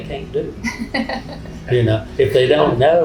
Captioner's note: woman laughing